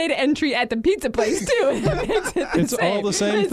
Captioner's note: everyone laughing